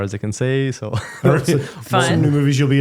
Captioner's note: laughing